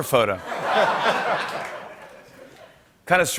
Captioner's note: laughter